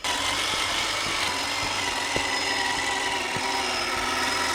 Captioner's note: engine roaring